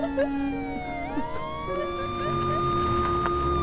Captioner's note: Maggie crying; fire raging; police sirens blaring